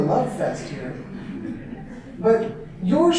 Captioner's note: audience laughter